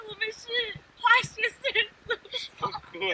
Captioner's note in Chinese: 笑Cry